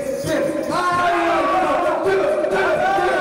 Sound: shouting

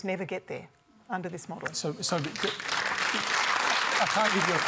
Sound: applause

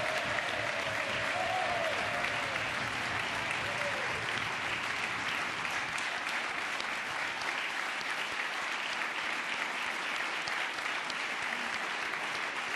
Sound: cheers and applause

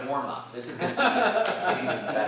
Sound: laughter

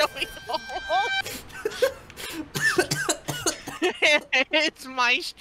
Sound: coughing fit

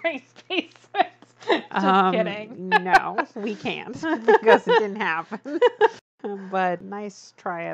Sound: laughs

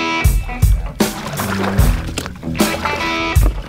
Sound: water splashing

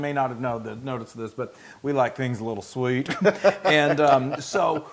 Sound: laugh

